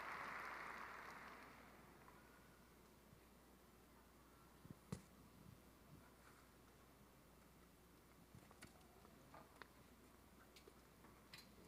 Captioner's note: applause